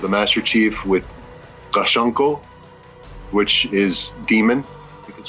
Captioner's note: speaks in Sangheili